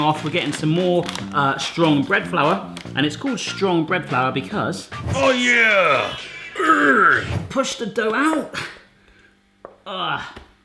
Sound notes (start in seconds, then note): 5.0 groans